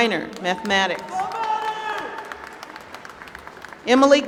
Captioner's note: applause